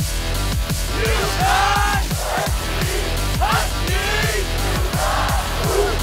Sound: whoot

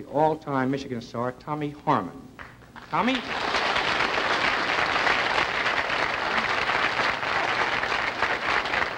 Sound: applause

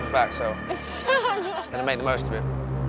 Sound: laughing

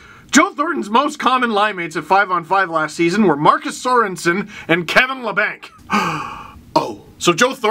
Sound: breath

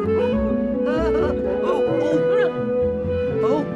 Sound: laughing

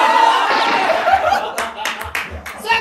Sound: everyone laughs

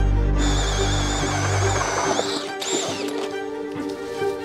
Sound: auger whirring

